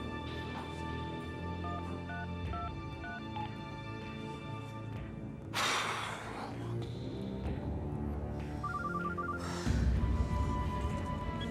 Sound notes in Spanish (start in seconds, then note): 5.5 exhala; 8.6 suena el celular